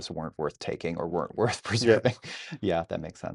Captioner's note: laughing